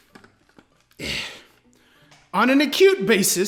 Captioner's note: grunts